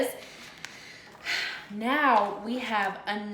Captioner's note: brief sigh